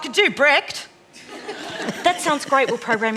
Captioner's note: laughter